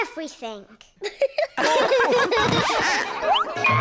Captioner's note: all laugh